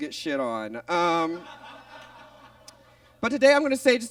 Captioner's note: audience laughs